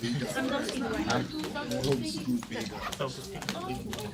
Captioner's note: students murmur